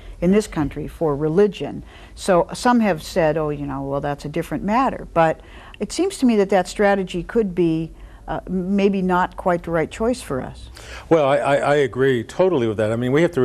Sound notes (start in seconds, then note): none